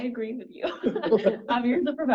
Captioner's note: panelists laughing